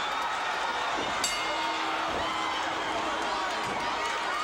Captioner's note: bell dinging